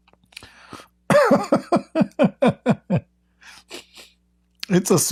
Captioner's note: Ketawa